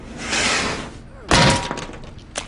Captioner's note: clang